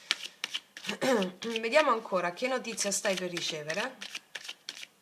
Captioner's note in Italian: schiarire la voce